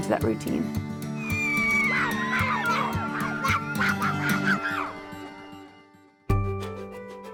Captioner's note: kids yelling